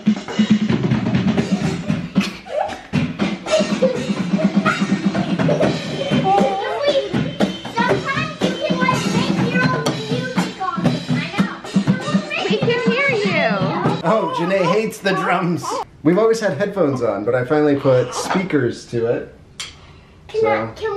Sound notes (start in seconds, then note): 2.3 kids laughing